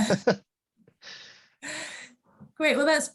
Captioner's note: group laughs